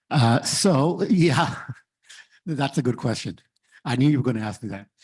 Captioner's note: laughs